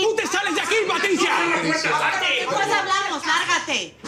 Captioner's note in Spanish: Hablan al unísono